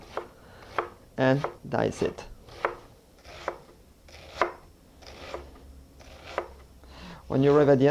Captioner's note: dicing sounds